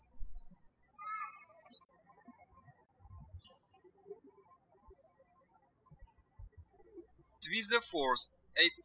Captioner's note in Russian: птички щебечут